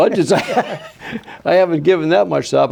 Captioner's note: both laughing